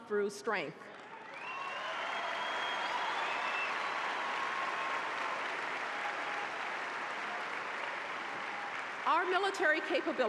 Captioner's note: applause